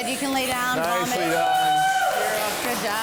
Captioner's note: participants cheering